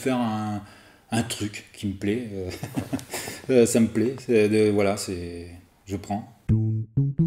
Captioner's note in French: rire